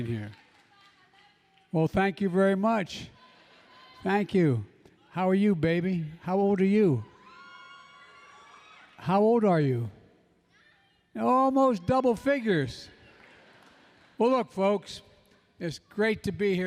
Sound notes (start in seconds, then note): 7.6 applause; 13.1 laughter